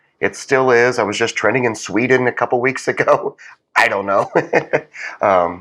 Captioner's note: laugh